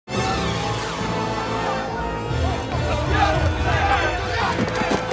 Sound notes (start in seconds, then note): 0.1 siren wailing; 2.2 people shouting